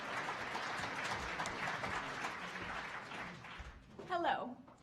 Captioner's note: audience applauding